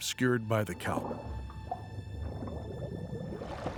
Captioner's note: air bubbling